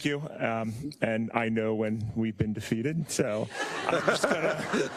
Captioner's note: laugh